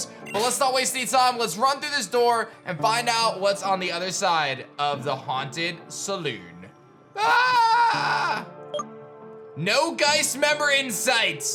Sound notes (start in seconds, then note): 7.1 scared cry